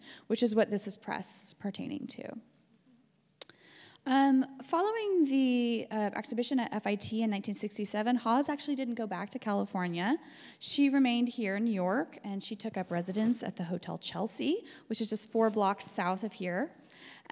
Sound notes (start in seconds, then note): none